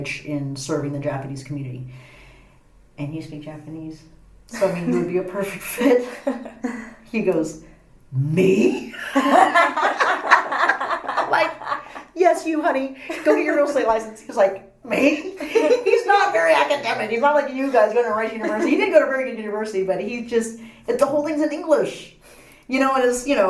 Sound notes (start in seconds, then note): 6.5 all laugh